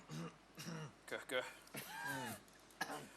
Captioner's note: coughs